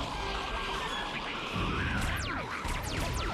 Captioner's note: snarling